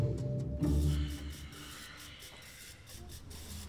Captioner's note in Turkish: Nefes sesi